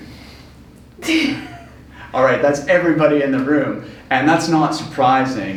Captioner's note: laughs